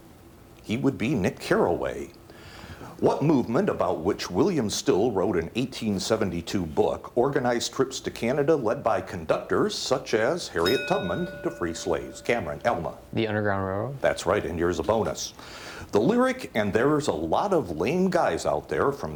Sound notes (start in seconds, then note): 10.6 bell dings